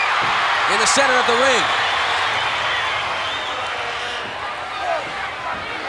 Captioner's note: audience cheering